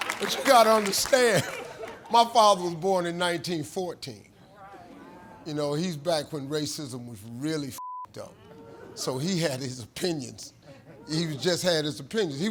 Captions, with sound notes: But you gotta understand, my father was born in 1914. You know, he's back when racism was really (beep) up. So he had his opinions, he just had his opinions.